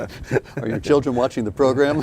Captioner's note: laughing